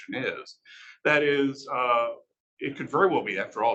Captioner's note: male Voice